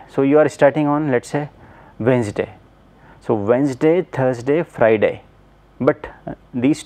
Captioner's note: hvac